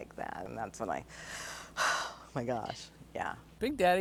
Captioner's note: exhales